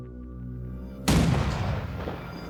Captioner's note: cannon firing